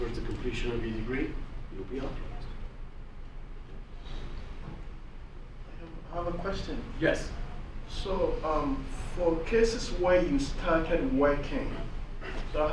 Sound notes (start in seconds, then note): 6.2 voiceover; 8.2 voiceover